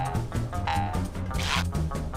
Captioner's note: boing